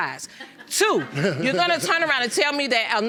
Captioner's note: laughs sarcastically